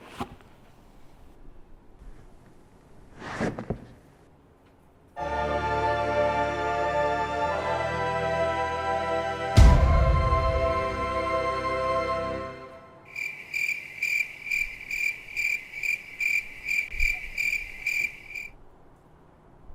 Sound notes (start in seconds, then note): 0.2 taking off the shoes sound; 9.6 epic stomp sound; 13.0 cricket